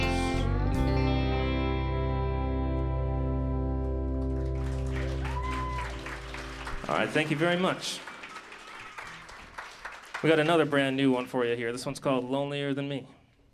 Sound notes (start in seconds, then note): 4.1 applause